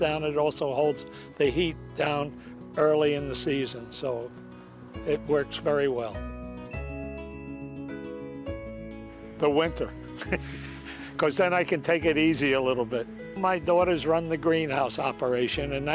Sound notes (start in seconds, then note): 10.2 laughs